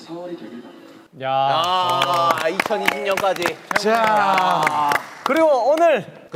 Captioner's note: applause